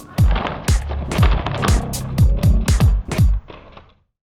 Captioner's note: upbeat music; cards flipping